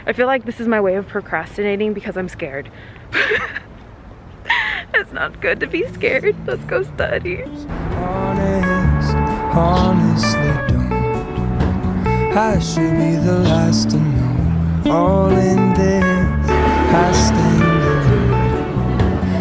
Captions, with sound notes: I feel like this is my way of procrastinating because I'm scared. (giggles) It's not good to be scared. Let's go study. (upbeat music)